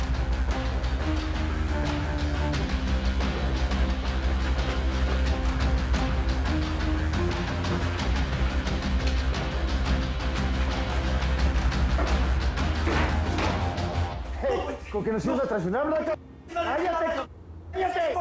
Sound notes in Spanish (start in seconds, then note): 12.9 Golpe en la puerta; 16.7 Hablan al unísono